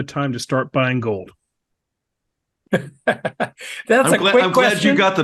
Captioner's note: laugh